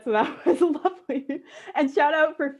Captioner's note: chuckles